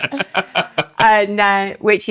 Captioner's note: laughing